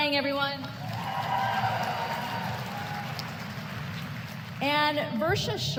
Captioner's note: applause